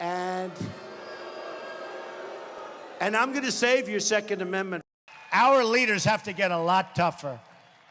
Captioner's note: boos